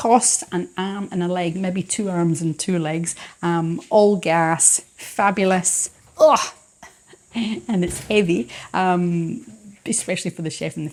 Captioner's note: chuckles